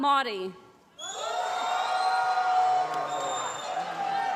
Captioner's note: applause